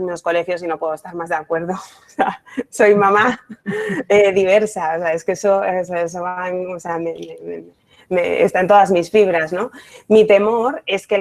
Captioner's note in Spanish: risas